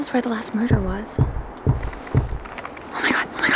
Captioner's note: object banging